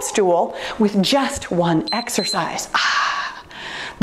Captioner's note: timer beeps